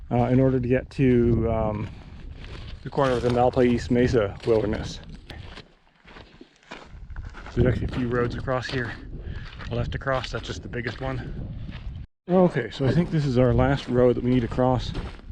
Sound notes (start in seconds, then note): 6.6 footsteps thumping